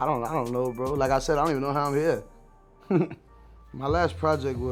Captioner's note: laughs